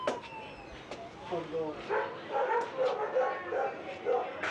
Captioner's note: dogs barking